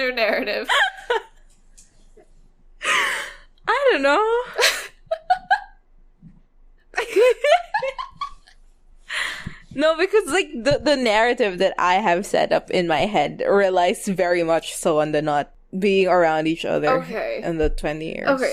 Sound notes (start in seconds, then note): 0.0 laughs; 4.1 both laughing